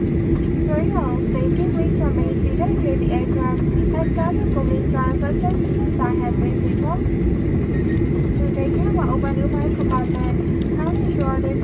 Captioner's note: cabin crew continuing the announcement in English